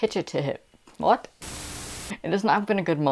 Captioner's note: Static